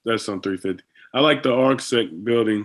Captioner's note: speaking faintly